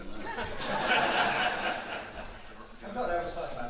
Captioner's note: audience laughing